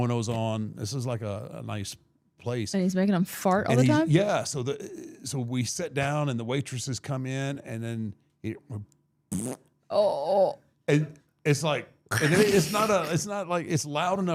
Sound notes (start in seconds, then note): 9.2 imitates fart